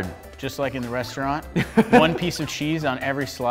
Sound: laughs

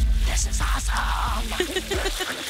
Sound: laughs

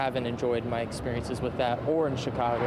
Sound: / :nats of cars

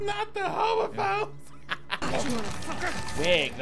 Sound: laughing

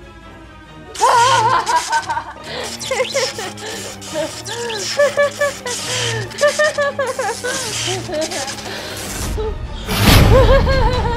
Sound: laughing; laughing

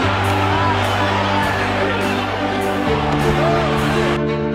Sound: crowd cheering

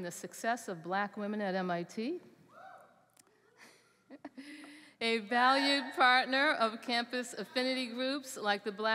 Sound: cheering

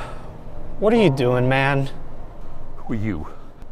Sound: sighs deeply

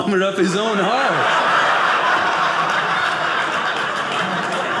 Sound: audience laughing

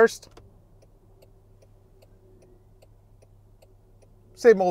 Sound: indicator ticking

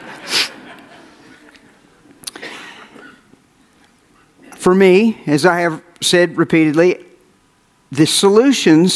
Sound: audience laughs

